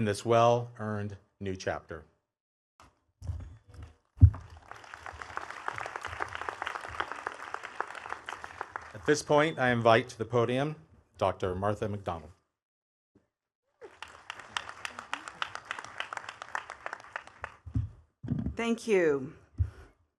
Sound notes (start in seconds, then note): 4.3 attendees clapping; 13.8 attendees clapping